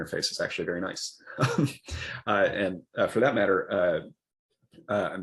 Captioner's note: laughs